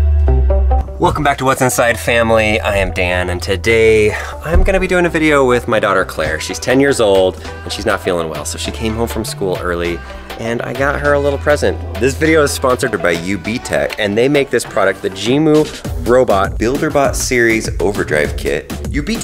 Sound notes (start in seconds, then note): 4.1 sighs